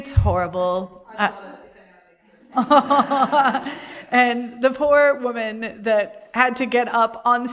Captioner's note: laughter